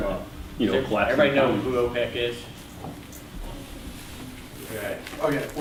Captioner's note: voiceover